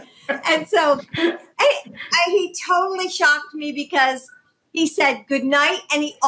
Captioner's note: laughter